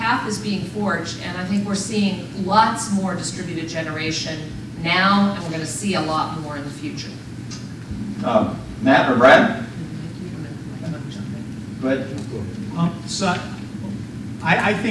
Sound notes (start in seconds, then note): none